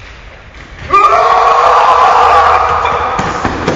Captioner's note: screaming